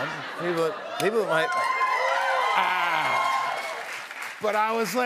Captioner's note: cheers and applause